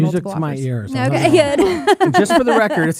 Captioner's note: laughs